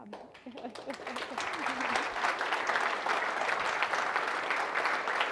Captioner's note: audience applauding